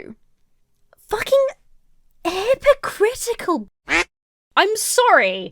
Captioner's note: duck quacking